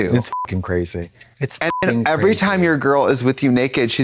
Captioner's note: beep